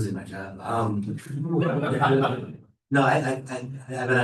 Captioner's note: laughter